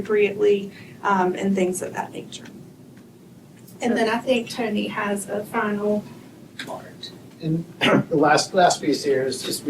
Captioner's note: clears throat